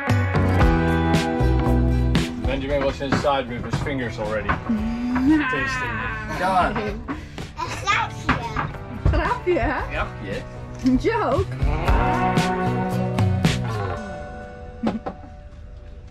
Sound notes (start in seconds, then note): 5.1 laugh; 8.4 speaking Dutch; 12.4 beachy music